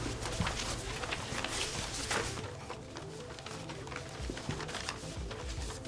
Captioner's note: papers rustling; soft dramatic music